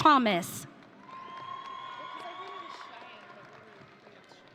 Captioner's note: audience cheering